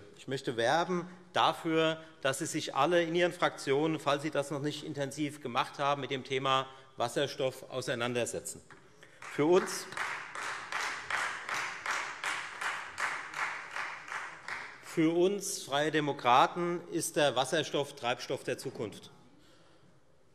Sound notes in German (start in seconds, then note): 9.0 Beifall Freie Demokraten